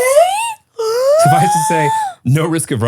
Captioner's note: gasping